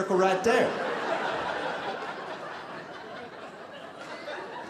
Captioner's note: audience laughing